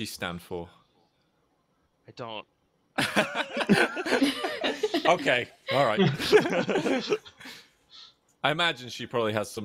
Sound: laughter

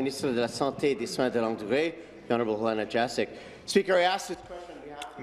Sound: speaking in French

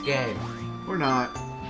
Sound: beep beep

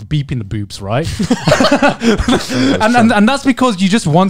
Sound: all chuckling

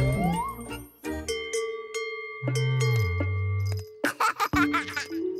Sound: cowbell dinging; laughing

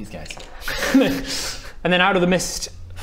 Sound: laughs

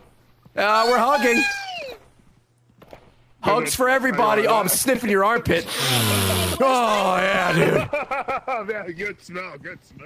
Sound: sniffs

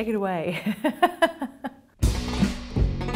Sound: laughs; bluesy music

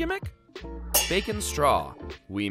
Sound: pans clanging

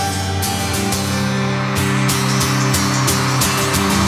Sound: cheers and applause

